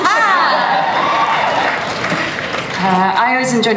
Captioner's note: laughter